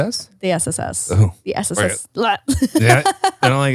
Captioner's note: laughs